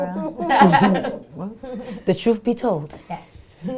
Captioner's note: laughter